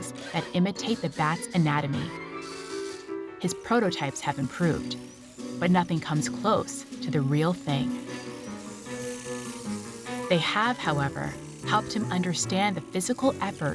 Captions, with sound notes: that imitate the bat's anatomy. His prototypes have improved, but nothing comes close to the real thing. (mechanical whirring) They have, however, helped him understand the physical effort